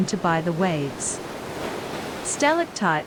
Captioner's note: waves